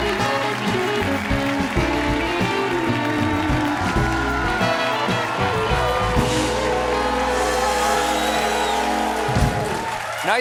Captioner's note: applause